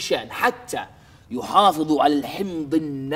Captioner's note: none